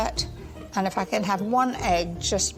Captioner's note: none